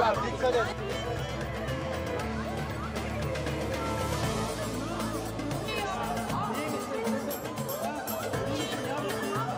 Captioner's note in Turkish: Bağrışma sesleri